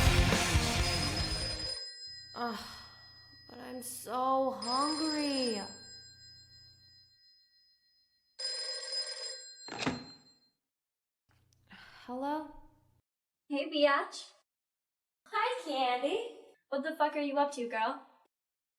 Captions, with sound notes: (Telephone rings) Uh. But I'm so hungry. Hello? Hey beeyotch. Hi candy! What the fuck are you up to, girl?